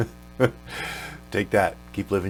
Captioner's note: laughs